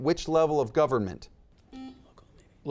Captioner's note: buzzer beeps